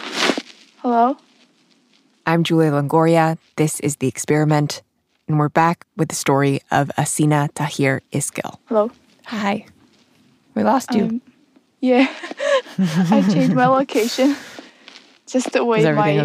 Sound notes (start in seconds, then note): 12.1 laughing; 12.2 chuckles